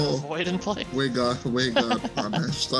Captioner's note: laughs